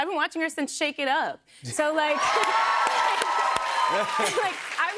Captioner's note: cheers and applause